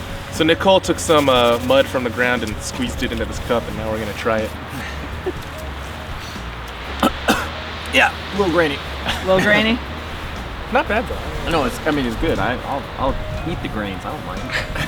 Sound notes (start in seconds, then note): 6.9 coughing